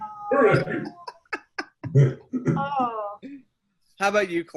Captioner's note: laughs